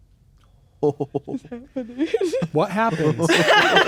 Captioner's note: chuckling; players laughing